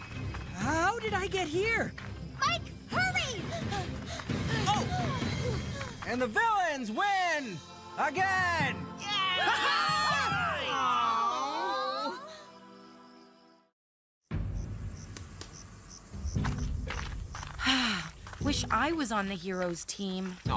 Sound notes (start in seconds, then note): 3.4 Courtney and Gwen Panting; 9.0 villains Cheering, Heroes Groaning; 17.6 Gwen Sighing